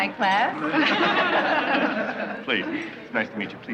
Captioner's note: laughing